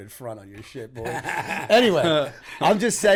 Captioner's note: laughter